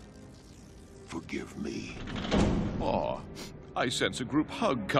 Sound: door opening

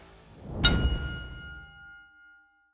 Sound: bell rings

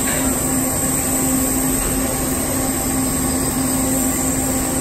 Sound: welding torch sizzling

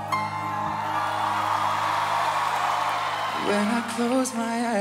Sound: cheering

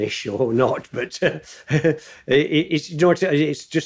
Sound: chuckling

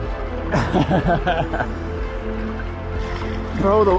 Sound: laughing

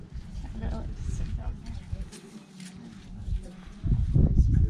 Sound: crowd noise

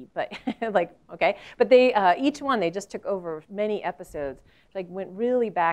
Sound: laugh

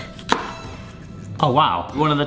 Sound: chopping board thuds

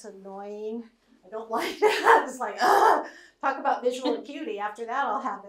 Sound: groans

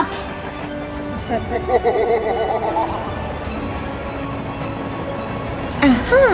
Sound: music and running train sounds

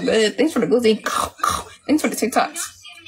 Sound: chomps

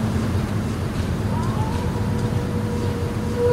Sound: coyote howls

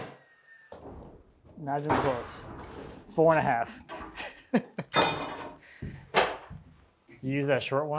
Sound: laughs

